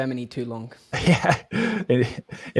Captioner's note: laughs